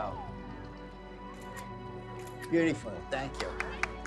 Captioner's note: camera clicking